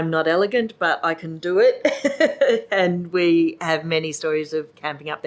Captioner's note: laughs